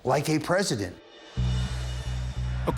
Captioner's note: crowd chanting